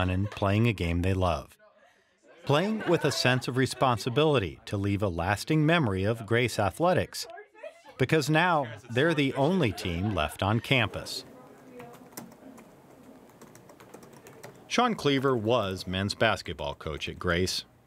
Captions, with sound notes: and playing a game they love. Playing with a sense of responsibility to leave the lasting memory of Grace athletics because now they're the only team left on campus. (computer typing) Shawn Kliewer was men's basketball coach at Grace,